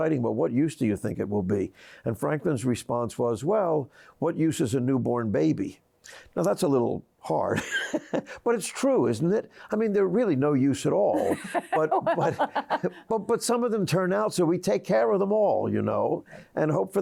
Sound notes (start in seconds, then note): 7.4 laughs; 11.1 laughs